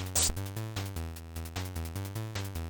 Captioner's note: swish